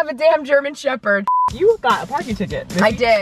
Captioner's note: high pitched beep